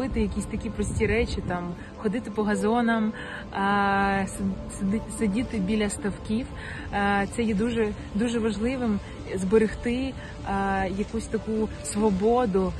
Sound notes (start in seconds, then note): 7.5 continues speaking Ukrainian